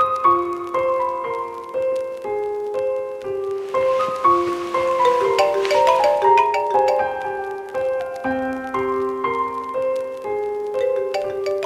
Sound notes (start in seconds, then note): 0.1 piano music; 5.0 phone ringing; 7.7 piano music